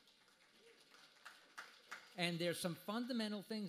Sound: applause

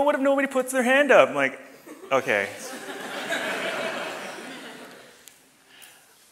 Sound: audience laughs

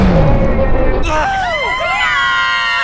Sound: bang; cheering; scream

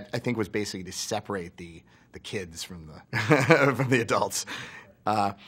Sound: laughs

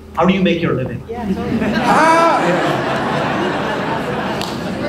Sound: audience laughs

